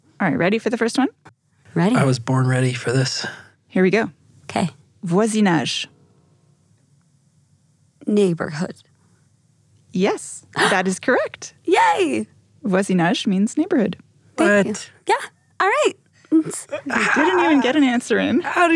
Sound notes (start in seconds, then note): 5.4 speaks in foreign language; 12.8 foreign language